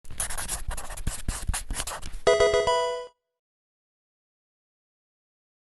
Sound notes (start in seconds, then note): 0.0 sound of pencil writing; 2.2 Pokemon game sound